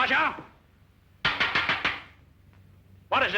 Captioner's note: tapping